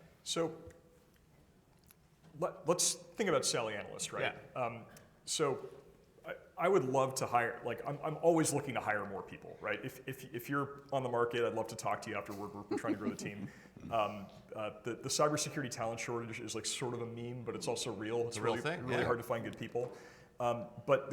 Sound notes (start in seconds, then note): 12.4 participant laughing